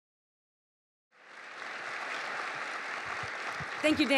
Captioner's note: applause